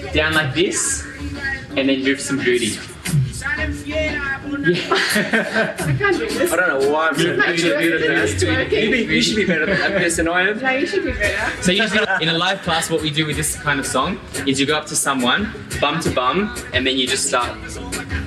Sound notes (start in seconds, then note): 4.6 laughing